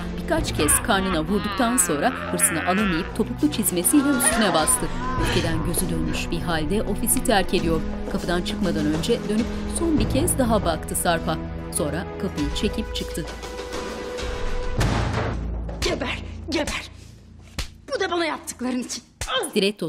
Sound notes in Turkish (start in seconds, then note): 3.8 İnleme sesleri